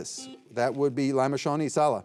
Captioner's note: buzzer buzzing